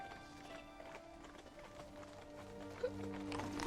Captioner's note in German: Schluchzen